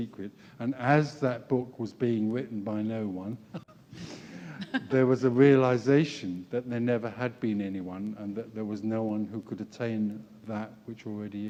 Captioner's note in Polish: śmiech